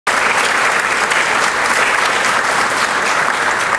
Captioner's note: hands clapping